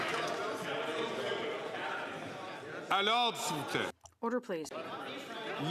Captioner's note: some Applause